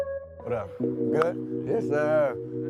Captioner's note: dink